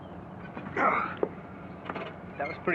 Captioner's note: grunts